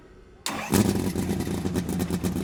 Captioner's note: engine fires up and revs